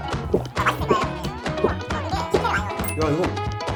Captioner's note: gulp gulp